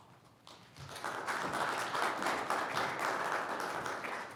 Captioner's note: audience applauds